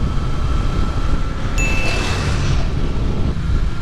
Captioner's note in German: Ding